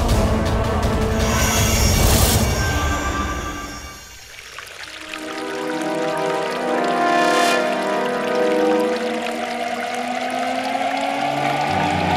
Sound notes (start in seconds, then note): 4.4 water trickling